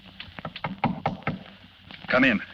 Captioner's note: knocking at door